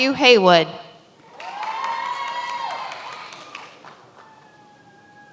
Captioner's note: many applauding